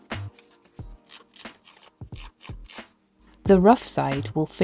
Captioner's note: scratching noises